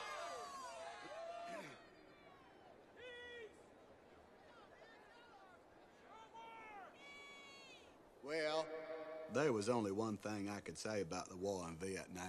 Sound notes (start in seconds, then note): 1.6 clears throat